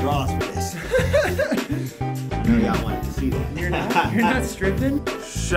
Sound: laughing

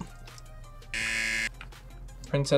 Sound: buzzer rings

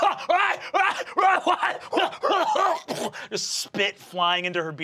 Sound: forced laughter; coughing

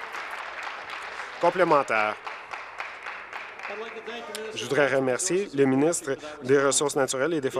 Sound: applause

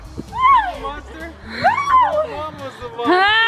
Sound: cheering

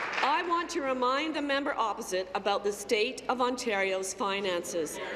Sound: applause

